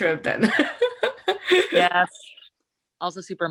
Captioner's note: chuckles